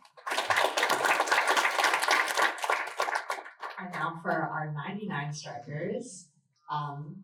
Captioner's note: applause